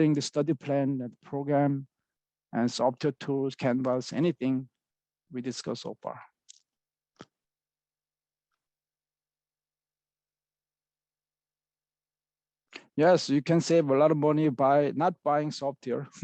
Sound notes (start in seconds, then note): 7.8 pause